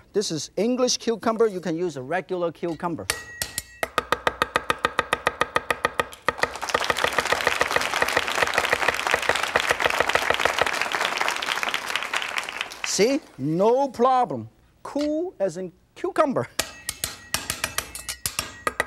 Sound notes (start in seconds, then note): 6.2 audience clapping